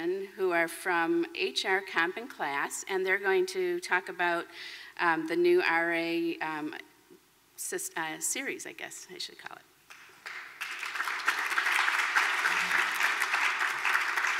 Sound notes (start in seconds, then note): 9.9 applause